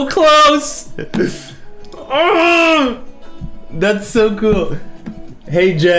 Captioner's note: laughs